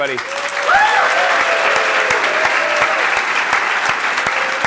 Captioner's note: applause